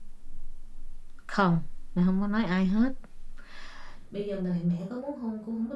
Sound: speaking foreign language

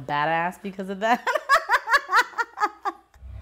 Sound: laughter

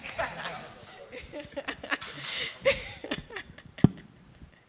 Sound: laughter

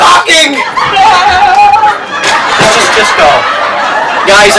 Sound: audience roars with laughter

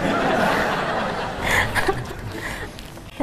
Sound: laughing

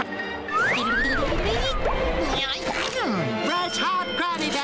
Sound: humming

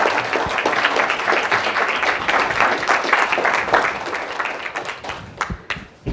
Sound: applause

